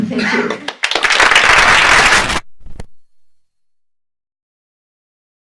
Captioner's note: audience applauds